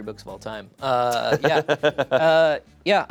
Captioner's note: laughs